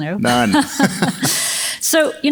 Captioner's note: both laugh